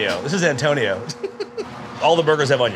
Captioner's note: person laughing